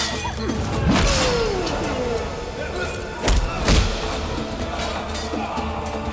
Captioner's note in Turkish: Savaş sesleri